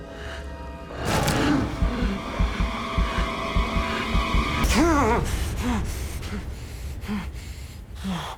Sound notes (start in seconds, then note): 0.8 Jon Re-Enactor gasping; 1.2 heart thumping; 4.6 Jon Re-Enactor gasping